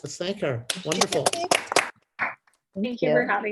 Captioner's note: applause